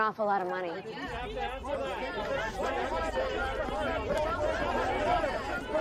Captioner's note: reporters clamor